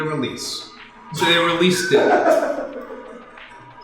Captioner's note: laughter